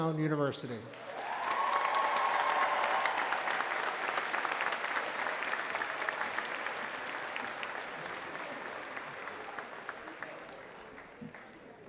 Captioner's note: applause